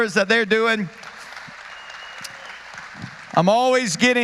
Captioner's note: applause